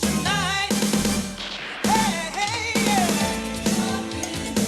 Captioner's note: explosion booming